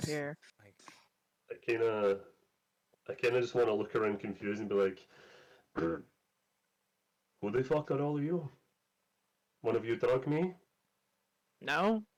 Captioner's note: ahem